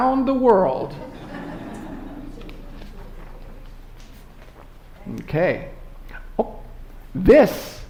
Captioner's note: laughter